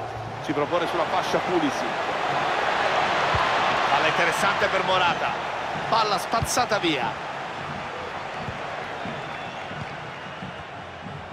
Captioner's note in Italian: Applauso; Applauso